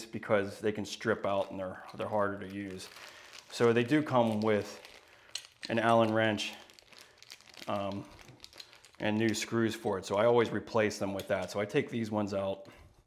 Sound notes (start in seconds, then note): none